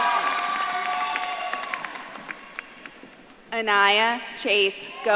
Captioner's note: audience claps and cheers